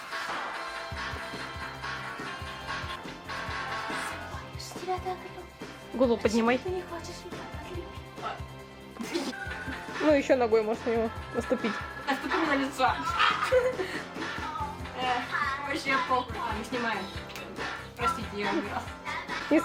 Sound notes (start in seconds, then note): 8.9 lols